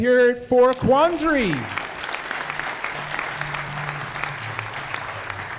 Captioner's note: audience applauding